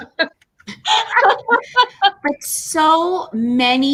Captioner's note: laughing